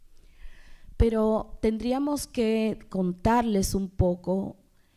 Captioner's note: speaking spanish